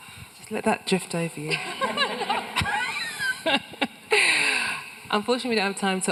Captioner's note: everyone laughing